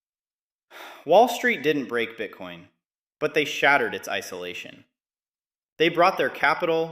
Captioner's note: sighs